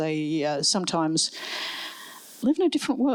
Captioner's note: none